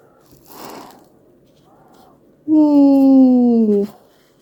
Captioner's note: quietly